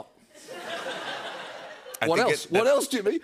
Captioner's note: laughter